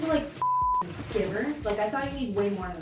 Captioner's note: beep